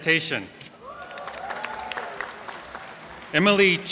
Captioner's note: applause and cheering